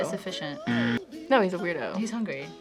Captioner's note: buzzer rings